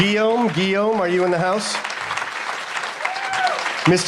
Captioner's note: applause